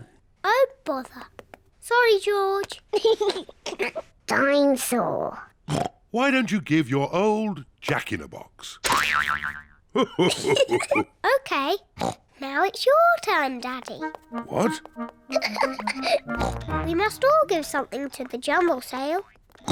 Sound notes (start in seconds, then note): 2.9 laughs; 5.7 oinks; 10.0 laughs; 15.2 giggles